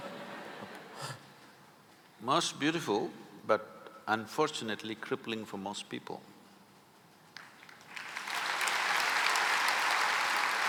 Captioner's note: laughs; applause